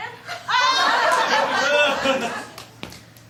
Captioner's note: laughter